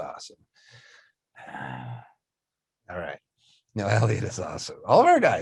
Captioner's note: grumbles